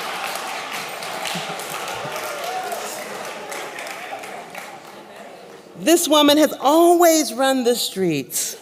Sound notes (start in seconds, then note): 3.6 applause